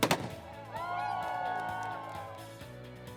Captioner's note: cheering